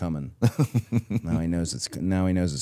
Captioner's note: Chad laughs